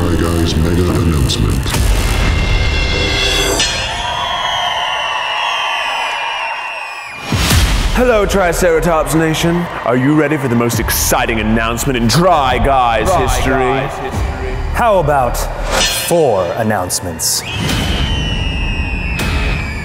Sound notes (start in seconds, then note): 3.6 bell; 5.1 crowd cheering; 14.0 echoing; 17.5 crowd cheering